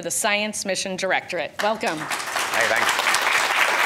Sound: audience applauding

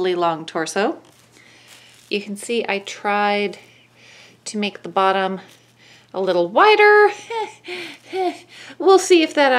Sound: nervous laugh

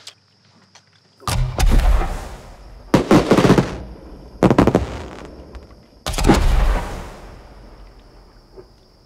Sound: fireworks exploding

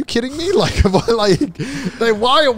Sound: laughing

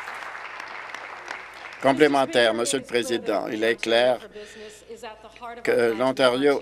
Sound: applause

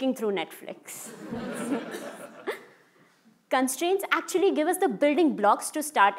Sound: laugh

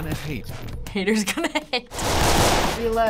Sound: laughing

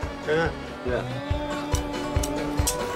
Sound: man speaking foreign language; upbeat music

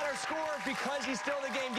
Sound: applause

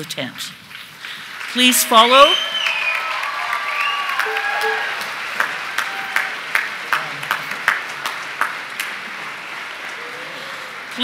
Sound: applause

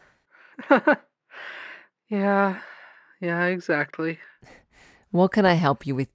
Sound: small laugh

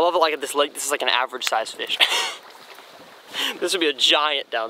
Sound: laughs

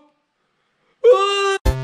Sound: Stumble screams

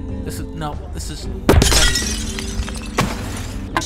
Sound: glass shattering

